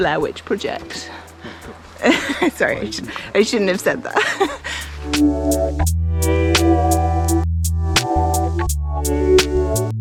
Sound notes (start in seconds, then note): 2.0 laughs